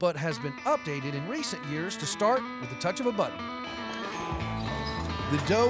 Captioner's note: clicking button